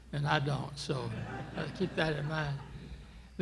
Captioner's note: laughter